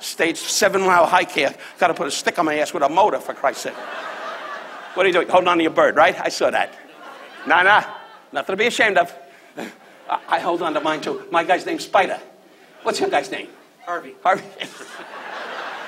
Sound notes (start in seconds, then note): 3.3 audience laughs; 14.3 laughs